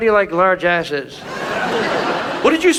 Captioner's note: audience laughs